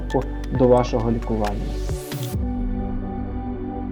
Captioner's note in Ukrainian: оплески